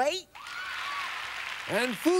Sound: applause

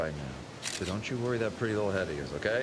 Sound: camera shutter clicks

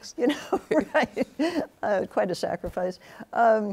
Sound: both laughing

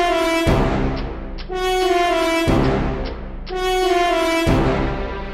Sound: tick tick tick

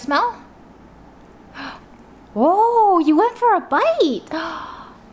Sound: gasps; gasps

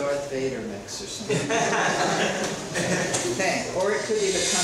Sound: students laughing

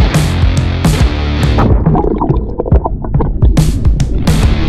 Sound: water waves vibrating; upbeat music

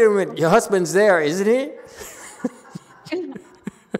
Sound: laughs, audience laughs

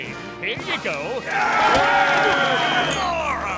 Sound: clamoring, whistle blowing

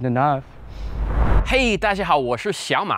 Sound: speaks foreign language

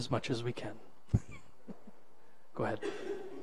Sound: laughs

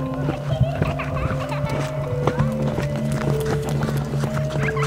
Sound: spooky music; child laughing eerily

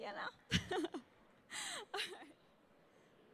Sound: laughing

